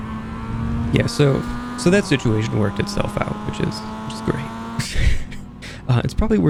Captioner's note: laughs